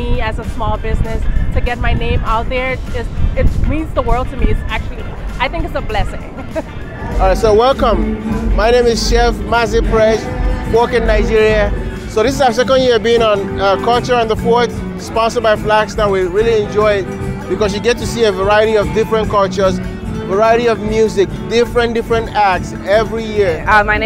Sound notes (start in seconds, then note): 6.0 laughs